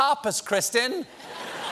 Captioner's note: laughter